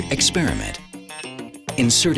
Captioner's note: grinding